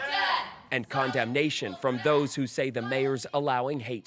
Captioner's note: chanting